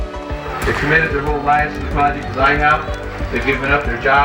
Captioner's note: on microphone